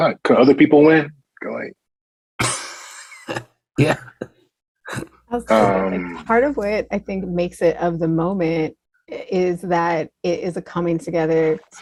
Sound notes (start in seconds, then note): 5.4 laughs